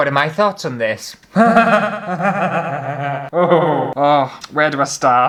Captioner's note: hysterical Laughter